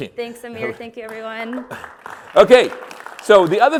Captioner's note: applause